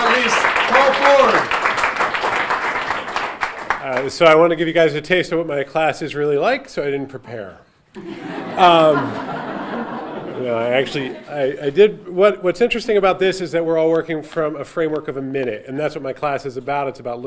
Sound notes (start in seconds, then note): 2.1 audience applauding; 7.9 audience laughing